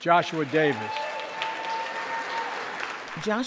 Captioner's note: crowd cheering loudly